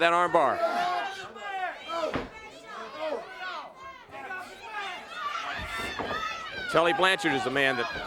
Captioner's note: crowd chatter